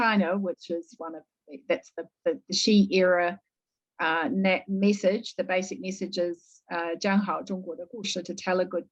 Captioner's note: speaking mandarin